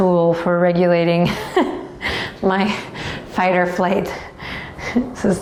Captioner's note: laughs